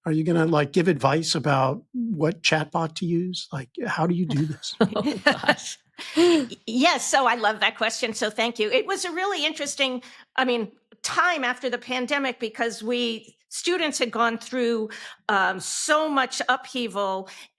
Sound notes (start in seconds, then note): 4.1 laughing; 4.9 chuckles